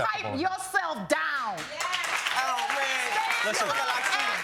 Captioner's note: audience cheering